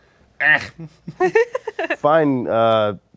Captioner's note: Snarr grunts non-committally